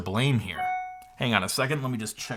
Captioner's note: phone dings